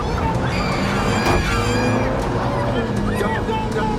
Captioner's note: screaming